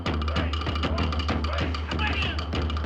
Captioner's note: all shouting and chanting